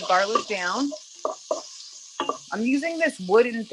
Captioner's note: onion sizzling